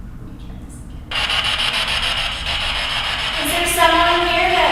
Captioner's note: static buzzing